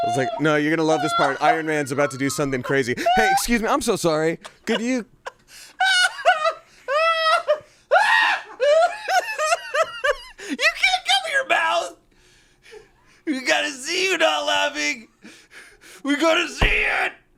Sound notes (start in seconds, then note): 5.7 laughs